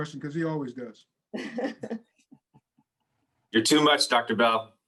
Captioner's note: laughs